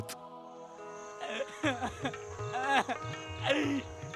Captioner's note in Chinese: 嗚咽,哭泣